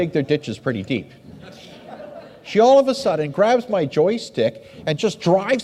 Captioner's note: audience laughs